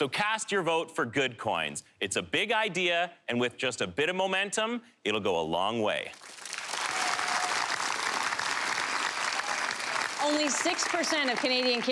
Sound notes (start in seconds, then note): 6.1 audience applause